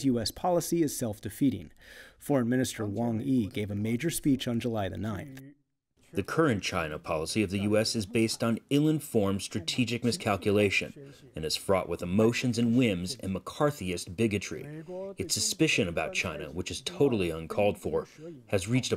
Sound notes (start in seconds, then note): 6.2 through translator